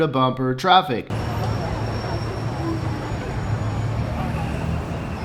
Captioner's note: traffic noises